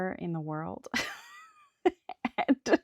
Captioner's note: laughs